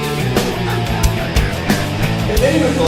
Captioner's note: laughing